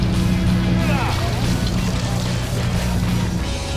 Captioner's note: men grunting